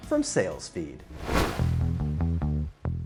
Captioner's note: whooshing; gentle bass music